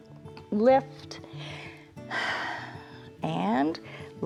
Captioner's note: inhales and exhales